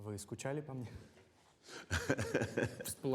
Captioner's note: Stone laughs